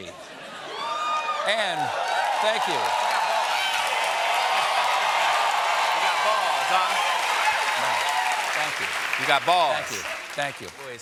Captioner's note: cheers and applause